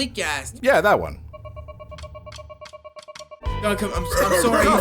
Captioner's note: watch beeps